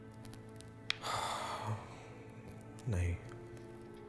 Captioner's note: sighs